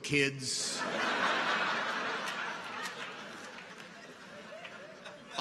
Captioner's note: audience laughs